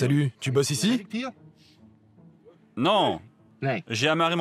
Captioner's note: Dutch spoken audio